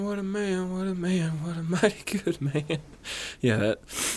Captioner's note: laughs